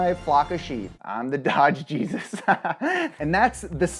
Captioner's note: laughing